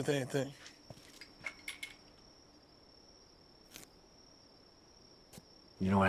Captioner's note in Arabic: زقزقة الصراصير